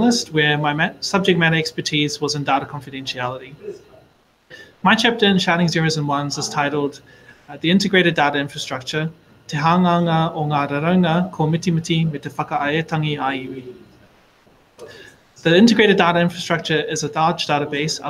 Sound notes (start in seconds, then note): 9.4 speaking in foreign language